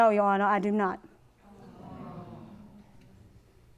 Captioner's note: audience sighing